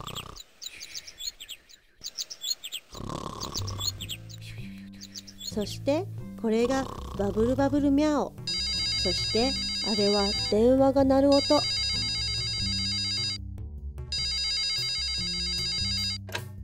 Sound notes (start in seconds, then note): 0.2 snoring; 3.4 birds chirping; 9.1 phone ringing